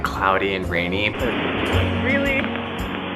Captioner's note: waves breaking